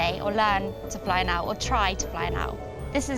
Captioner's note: none